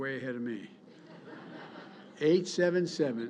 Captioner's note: laughter